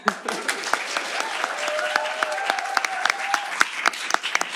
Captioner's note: applause